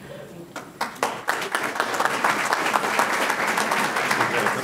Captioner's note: audience clapping